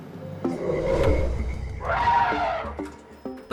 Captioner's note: growling, trumpeting